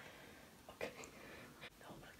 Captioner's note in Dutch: gelach